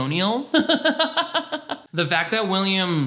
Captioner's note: laughing